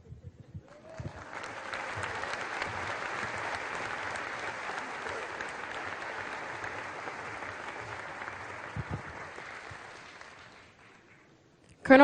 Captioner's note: applause